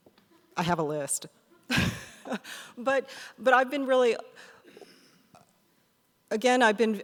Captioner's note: laughs